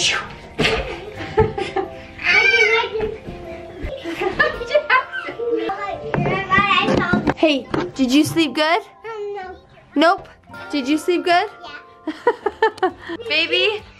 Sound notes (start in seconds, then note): 0.6 laughs; 12.1 laughs